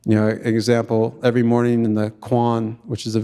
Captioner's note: speaking in Tlingit language